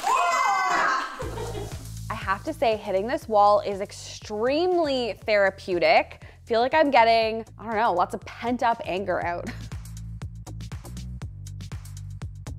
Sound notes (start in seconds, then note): 0.8 chuckles; 9.7 upbeat music